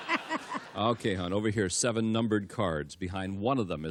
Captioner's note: laughter